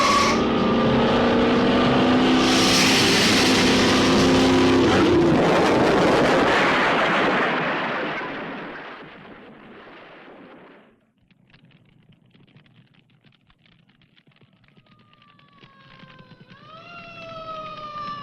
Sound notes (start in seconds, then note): 2.4 lizard hissing; 5.0 explosion booming; 12.0 fire crackling; 14.8 siren wailing